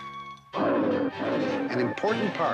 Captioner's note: roaring